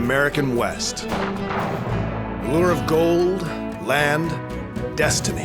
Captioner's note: gunshot